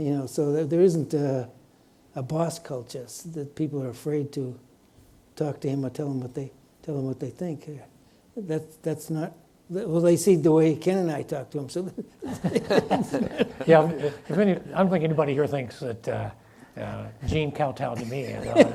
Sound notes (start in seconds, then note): 12.0 laughs; 12.2 audience laughs; 18.0 laughs